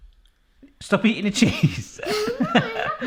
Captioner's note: laughing